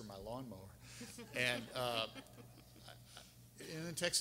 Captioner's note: audience laughing